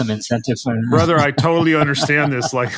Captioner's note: laugh